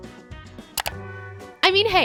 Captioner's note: clicking